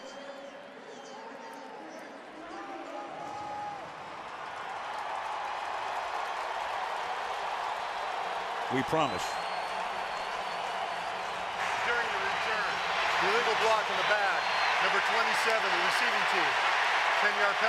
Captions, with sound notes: [pa announcement] [cheering] We promise. During the return, illegal block in the back, number 27, receiving team.